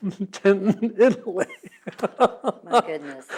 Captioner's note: laughs